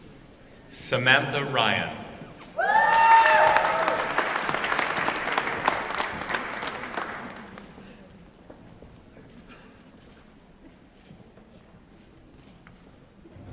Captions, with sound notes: Samantha Ryan. [ Applause ]